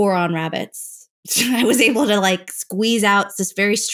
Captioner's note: laughter